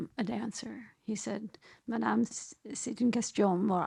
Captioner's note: speaks in foreign language